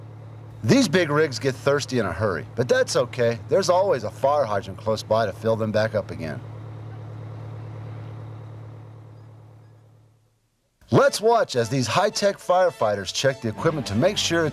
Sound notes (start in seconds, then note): 6.5 truck engine revving